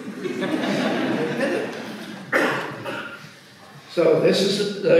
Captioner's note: audience laughs